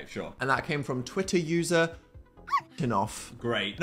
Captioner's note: dog barks